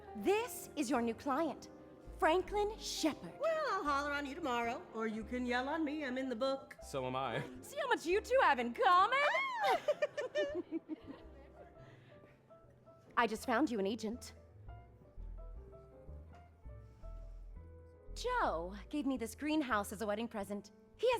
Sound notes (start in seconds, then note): 9.3 squeals, giggles; 9.4 laughs